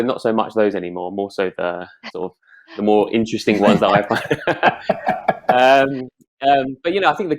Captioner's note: all laughing